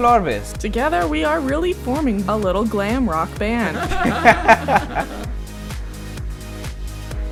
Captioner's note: laughter